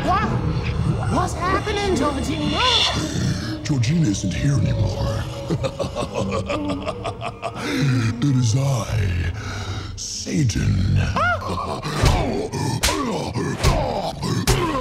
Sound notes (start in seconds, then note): 5.1 chuckling; 11.0 Peel gasps; 12.8 slaps cracking